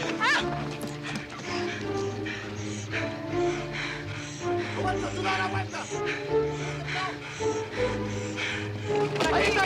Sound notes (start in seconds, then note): 0.0 screams, pants; 4.4 indistinct chatter